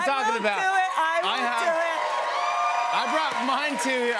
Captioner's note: cheers and applause